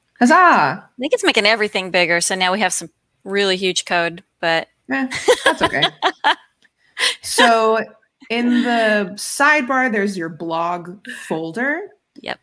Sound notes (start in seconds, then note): 6.9 laughs